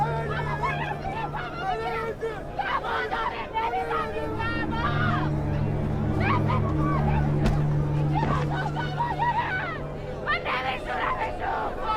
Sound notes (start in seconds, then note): 6.0 screaming